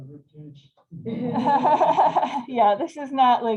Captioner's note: laughter